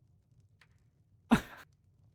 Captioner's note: giggles